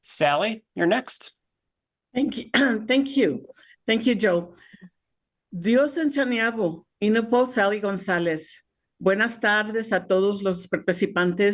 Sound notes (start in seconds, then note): 5.5 speaking Spanish